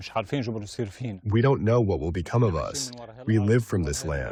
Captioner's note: through translator